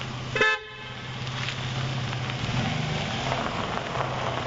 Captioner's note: horn honking